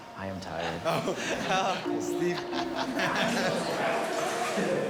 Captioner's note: laughs